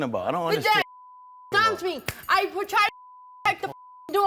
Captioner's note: beep